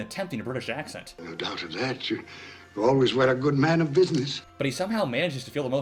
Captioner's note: George C Scott-in a very American Voice